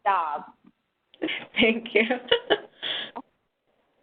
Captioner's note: laughs